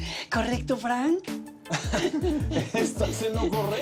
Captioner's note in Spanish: Risas